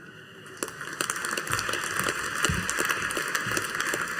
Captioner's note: audience applauding